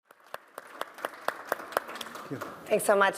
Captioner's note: applause